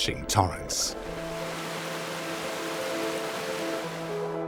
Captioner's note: water sloshes; gentle music